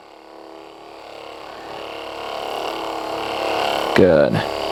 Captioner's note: massage gun vibrating